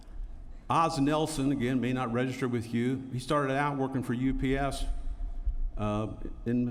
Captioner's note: none